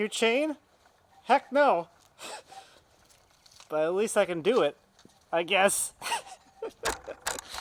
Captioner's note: laughs